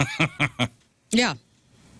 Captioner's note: laughing